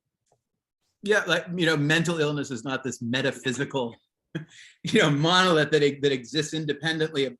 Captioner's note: chuckles